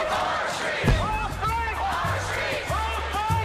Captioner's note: chanting in Spanish